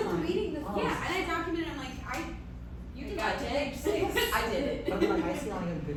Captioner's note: chatter